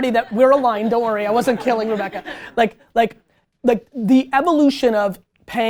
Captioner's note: group laughter